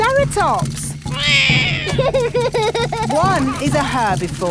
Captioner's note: roars; laughs